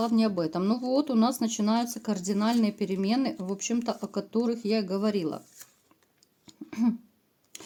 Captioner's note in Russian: откашливается